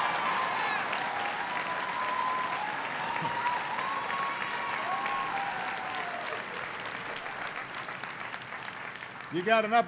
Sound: laughter and applause

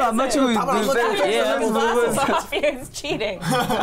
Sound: everyone exclaiming

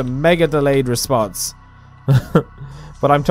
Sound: awkward chuckle

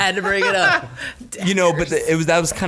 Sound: laughter

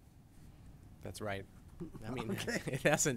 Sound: executive Director speaking

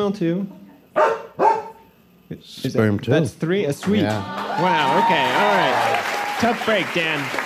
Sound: Macy barks

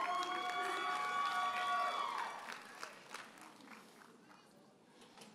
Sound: audience cheers and applauds

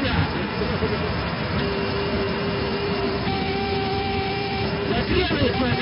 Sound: angle Of Attack Warning Sound

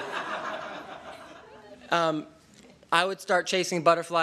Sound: laughter

